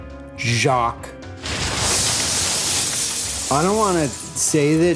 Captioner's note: glass shatters